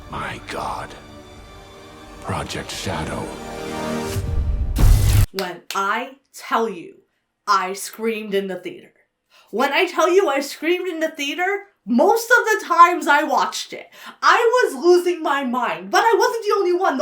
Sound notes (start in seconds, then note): 4.7 electricity crackles; 5.3 claps